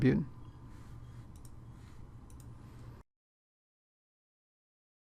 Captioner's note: typing